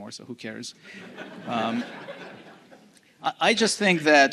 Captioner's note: laughs